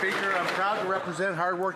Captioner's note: some Applause